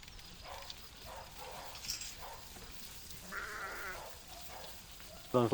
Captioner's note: barking and bleating